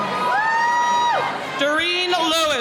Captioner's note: cheering